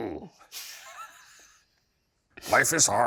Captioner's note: Shane and Ryan laugh